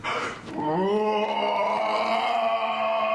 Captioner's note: roaring